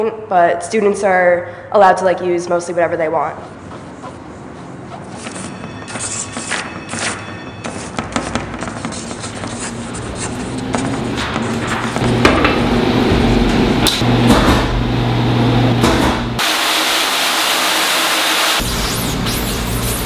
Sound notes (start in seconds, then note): 5.7 sound of drawing; 11.8 sound of printmaking; 16.5 sound of water